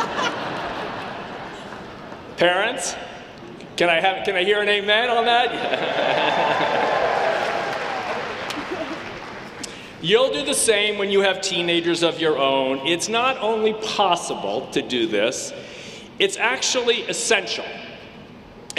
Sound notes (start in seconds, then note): 0.0 audience laughing; 5.7 audience cheering